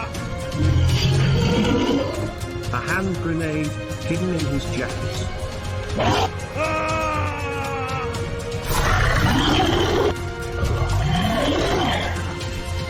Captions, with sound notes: A hand grenade hidden in his jacket... [Shouting / Roaring]